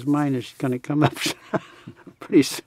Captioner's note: laughs